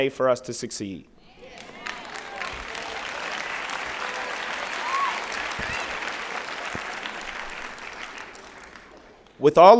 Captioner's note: applause